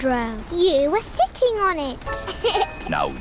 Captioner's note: laughs